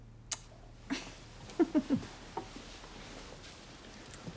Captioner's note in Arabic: يضحك